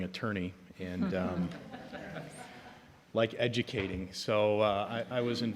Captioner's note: audience chuckling